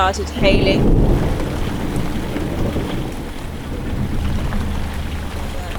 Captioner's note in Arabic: صوت الرعد